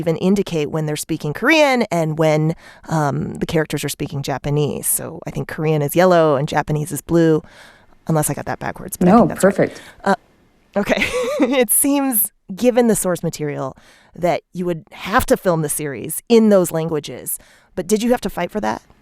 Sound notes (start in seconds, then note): 10.9 laughter